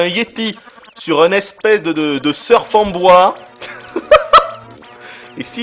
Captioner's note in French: rires